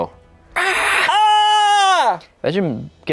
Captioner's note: yells